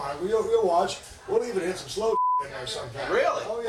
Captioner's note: beep